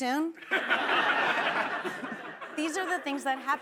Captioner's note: laughing